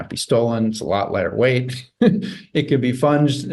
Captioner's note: chuckles softly